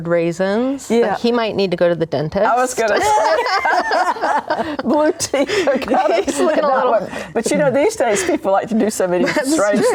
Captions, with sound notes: He might need to go to the dentist. I was going to say. (laughing) But, you know, these days, people like to do so many strange things.